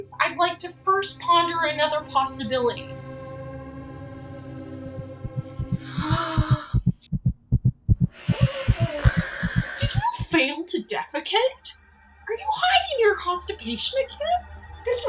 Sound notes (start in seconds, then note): 5.8 C: sensual gasping; 7.1 C: heart racing